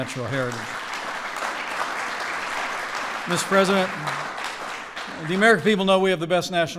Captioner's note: applause